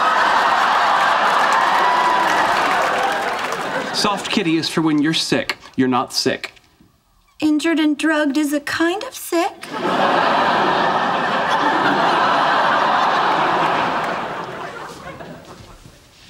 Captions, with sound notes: (audience laughing) (audience applauding) - "Soft Kitty" is for when you're sick. You're not sick. - Injured and drugged is a kind of sick. (audience laughing)